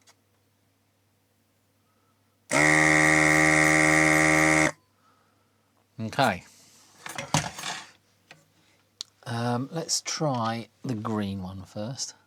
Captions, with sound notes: (Buzzer) Okay. Let's try the green one first.